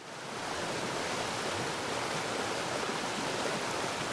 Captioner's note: water rushing